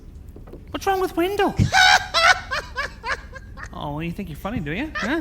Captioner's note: Wendell laughing